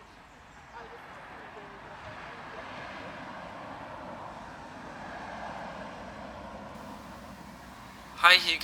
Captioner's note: distant traffic; augusto, on voicemail recording